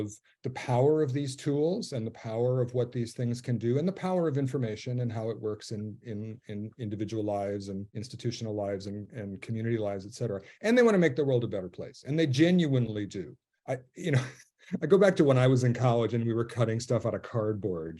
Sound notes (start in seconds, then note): 14.0 he laughs